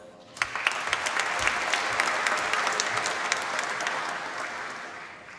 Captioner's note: applause